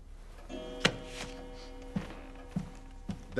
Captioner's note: clock chiming